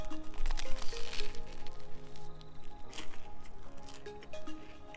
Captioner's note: crunch